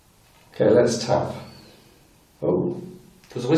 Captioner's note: whistling